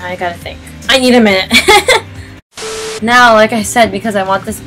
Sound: awkward laugh

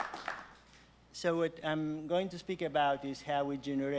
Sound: applause

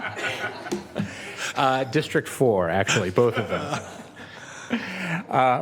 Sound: some Laughter

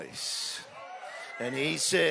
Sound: audience exclaiming

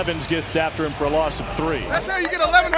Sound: clapping

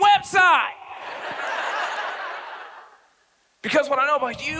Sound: audience laughs

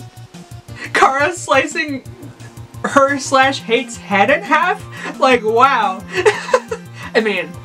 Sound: laughs

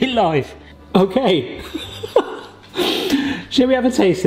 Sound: laughs

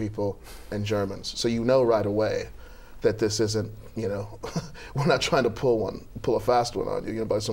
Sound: laughter

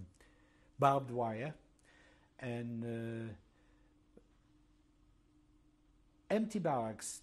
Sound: pauses for 3 seconds

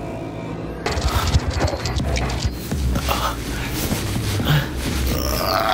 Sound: scorpion scurries

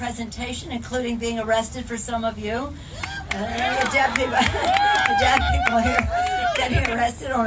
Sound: audience cheers

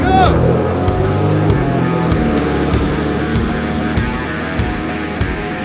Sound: jet ski engine revving; rock music

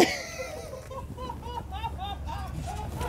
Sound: laughing

